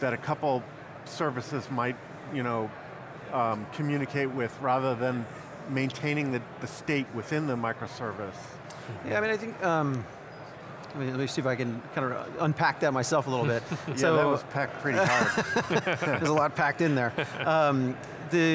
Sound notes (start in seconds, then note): 14.9 laughing